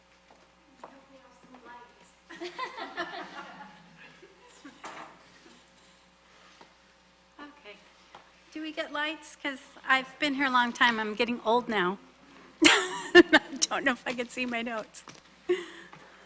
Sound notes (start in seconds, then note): 2.3 people laughing; 12.6 laughs